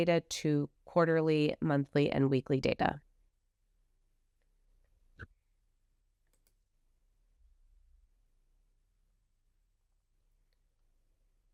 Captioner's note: silence